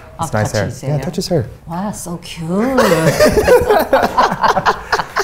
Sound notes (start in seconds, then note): 2.7 laugh